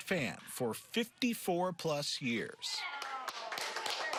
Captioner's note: nats clappin